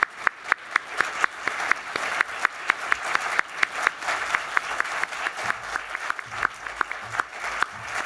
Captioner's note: applause